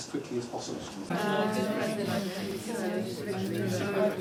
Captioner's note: chattering